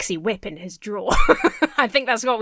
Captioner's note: Emma laughs